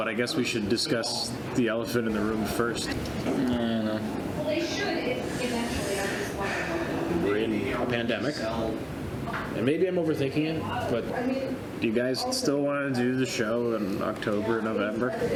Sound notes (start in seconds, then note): 3.2 sulkily